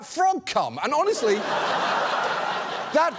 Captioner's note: studio audience laughs